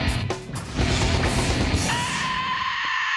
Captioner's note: loud scream